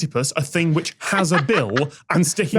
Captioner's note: cackles